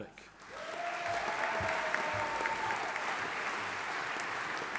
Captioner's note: audience applauding